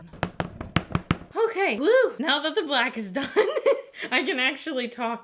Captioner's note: laughs